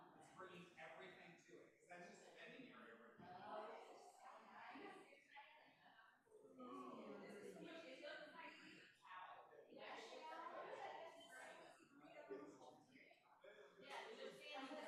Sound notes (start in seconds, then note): 3.1 group chattering